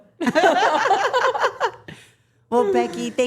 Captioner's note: everyone laughing